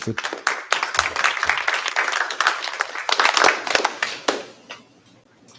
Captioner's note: applause